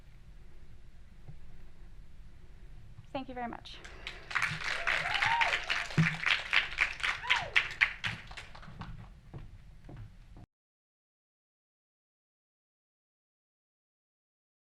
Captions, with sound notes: Thank you very much. (crowd applauding) (crowd cheering)